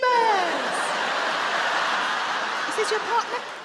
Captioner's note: audience laugh